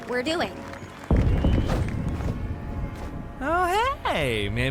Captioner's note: distant explosion booms